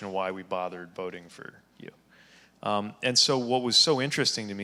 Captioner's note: none